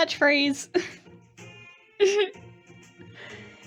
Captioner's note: laughing